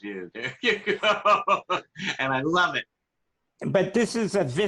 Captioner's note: laughter